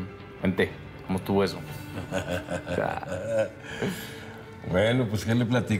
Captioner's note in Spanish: risas